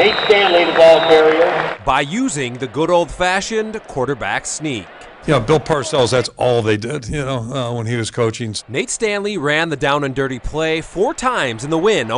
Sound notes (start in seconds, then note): 4.5 crowd